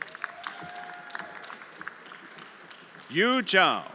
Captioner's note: everyone applauding